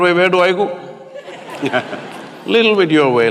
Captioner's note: laughter